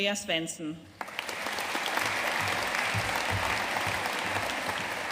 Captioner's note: audience applauding